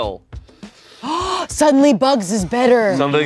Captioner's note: gasps